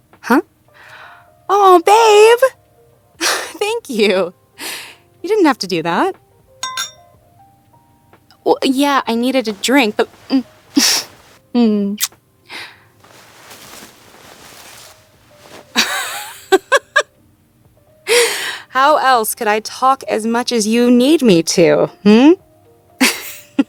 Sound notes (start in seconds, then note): 15.8 speaker laughs; 23.4 laughing